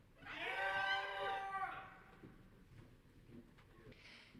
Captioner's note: audience cheering